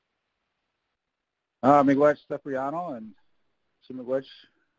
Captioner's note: Hunter speaking Ojibwe